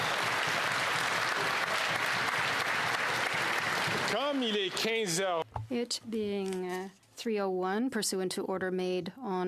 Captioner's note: cheering and Applause